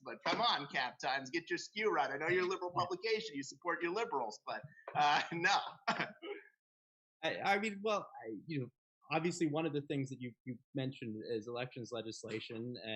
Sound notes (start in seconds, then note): 4.9 laughing